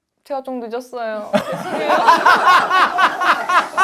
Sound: laughs

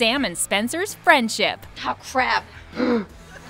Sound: gasping

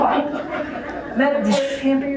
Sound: laughter

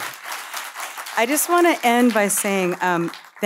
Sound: audience applauding

